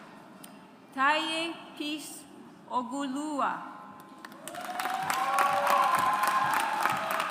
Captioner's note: audience applauds